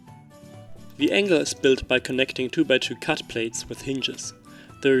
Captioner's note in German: hinges